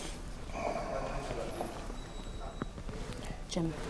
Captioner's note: people chattering; Jim sighs